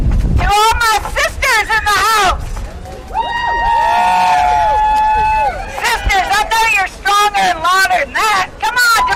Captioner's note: applause